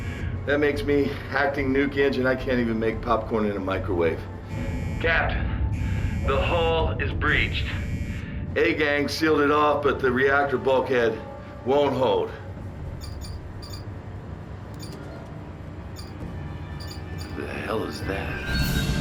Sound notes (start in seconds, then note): 12.8 beeping